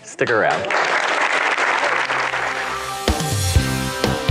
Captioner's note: applause; upbeat rock music